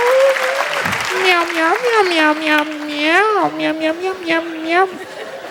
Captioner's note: meowing repeatedly